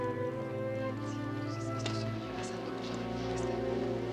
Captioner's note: indistinct chatter